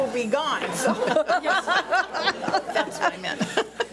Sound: board laughs

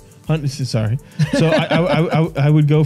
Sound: laughter

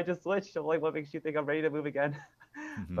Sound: laughs

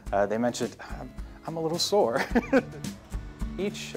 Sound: laughs

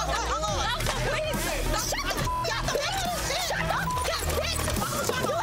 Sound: loud cussing

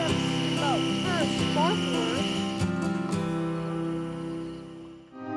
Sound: kids chattering

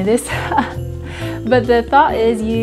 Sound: chuckles

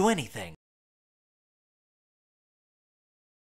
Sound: silence

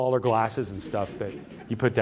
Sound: laughter

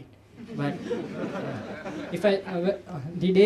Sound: laughter

